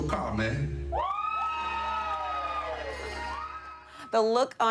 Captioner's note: congregation cheering